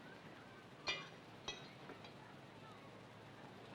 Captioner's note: dishware clanks